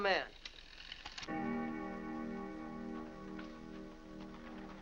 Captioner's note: clock chimes